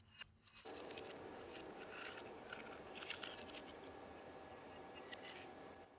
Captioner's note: sharp fragmented whirring